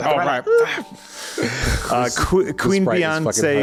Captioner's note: laughs